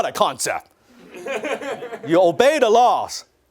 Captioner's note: laughter